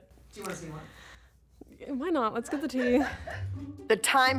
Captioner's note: producer laughs